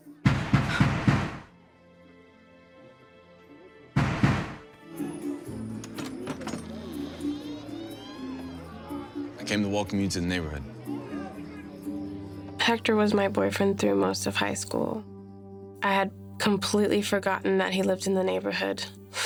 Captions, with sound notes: [pounding] I came to welcome you to the neighborhood. Hector, was my boyfriend through most of high school. I had completely forgotten that he lived in the neighborhood.